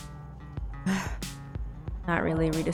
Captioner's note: displeased sigh